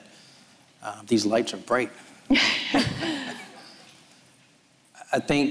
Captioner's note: all laughs